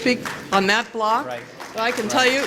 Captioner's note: applause